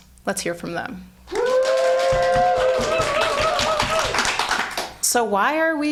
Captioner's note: audience cheering; audience applauding